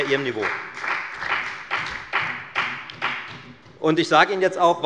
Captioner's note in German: Beifall bei der FDP